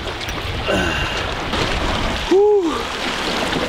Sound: grunting

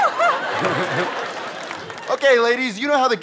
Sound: audience laughter

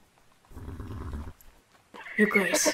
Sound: whinny

